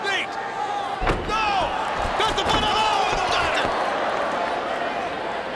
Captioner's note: commentators shouting